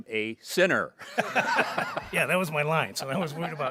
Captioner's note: board members chuckling